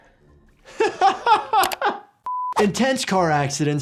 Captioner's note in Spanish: el doctor se ríe